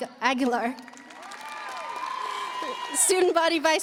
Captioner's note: audience applauding; audience cheering